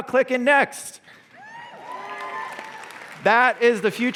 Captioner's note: cheers and applause